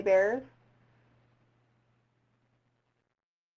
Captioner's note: silence